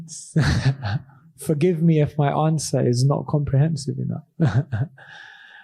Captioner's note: laughs